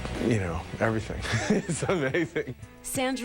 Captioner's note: laughs